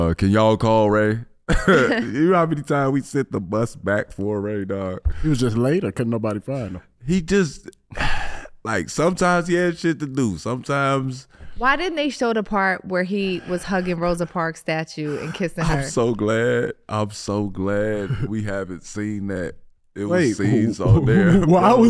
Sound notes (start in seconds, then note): 7.8 sighs; 20.1 laughing